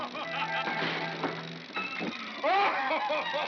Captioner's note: thump; Santa laughs; chattering sound of gears; Santa laughs